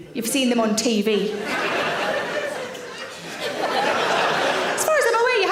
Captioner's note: audience laughs